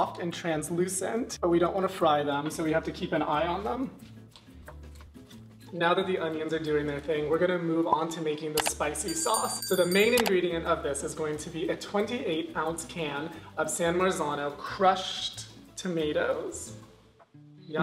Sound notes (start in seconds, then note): none